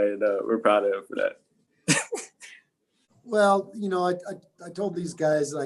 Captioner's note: laugh